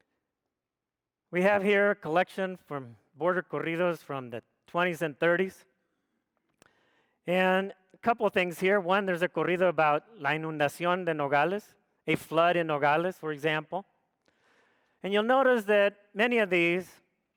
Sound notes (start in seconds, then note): 9.9 speaks foreign language